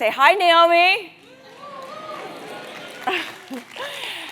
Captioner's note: applause; laugh